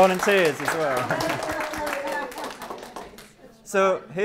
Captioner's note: applause